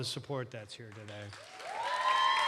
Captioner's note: cheering and applause